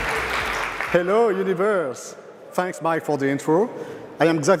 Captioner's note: cheers and applause